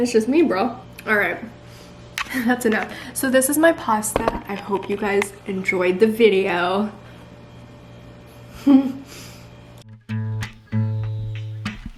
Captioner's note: giggles